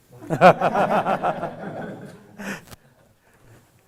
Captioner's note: all laughing